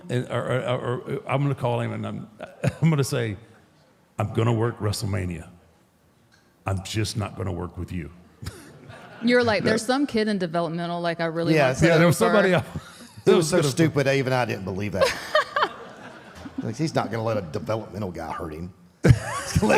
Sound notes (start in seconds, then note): 15.0 Michelle laughs